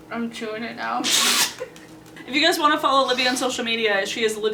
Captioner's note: laughs